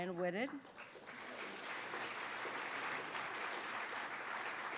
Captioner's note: audience applauds